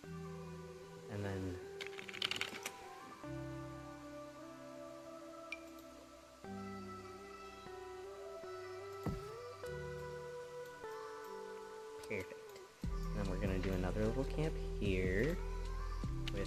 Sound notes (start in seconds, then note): 1.8 typing; 5.4 Sims object placement sounds